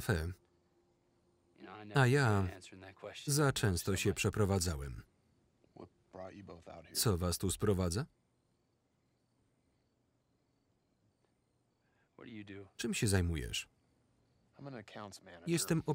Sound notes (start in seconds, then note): 7.8 crickets chirping